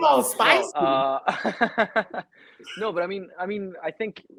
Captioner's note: laughing